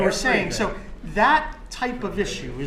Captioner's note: laughs